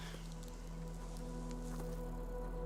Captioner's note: tense music; Russell sighs